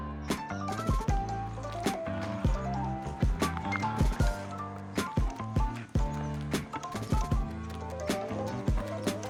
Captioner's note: horse hoofsteps